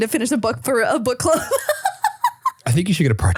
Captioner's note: laughing